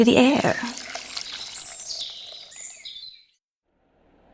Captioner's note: liquid pouring